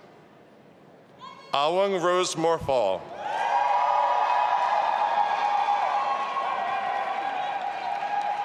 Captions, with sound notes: Awung Rose Morfaw. (audience applauding and cheering)